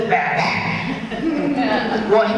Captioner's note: audience chuckles